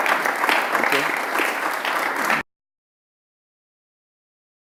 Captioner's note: audience applause